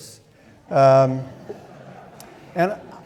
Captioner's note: audience laughing